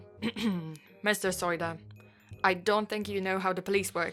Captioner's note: clears throat